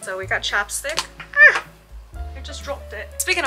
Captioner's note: in British